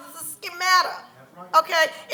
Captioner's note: congregation murmurs